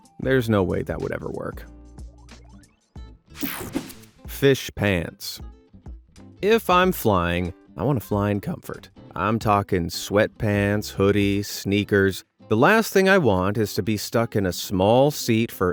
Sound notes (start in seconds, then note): 3.3 scene change whirs